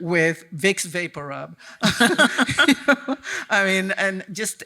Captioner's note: chuckling